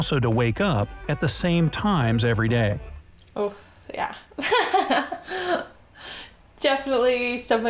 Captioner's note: laughs